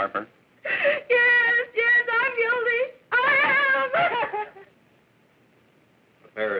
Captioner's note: crying